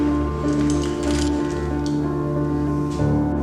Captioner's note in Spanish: sonido de engranajes